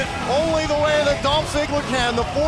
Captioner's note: crowd cheering